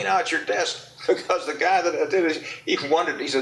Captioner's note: laughs